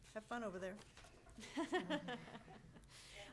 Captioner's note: everyone laughing